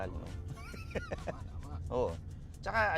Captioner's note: laughs